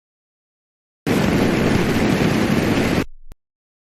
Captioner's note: rocket whooshes